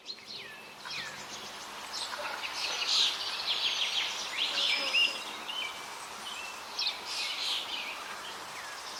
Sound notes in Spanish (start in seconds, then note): 0.0 sonidos de río, trino de pájaros